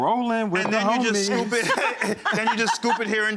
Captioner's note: laughs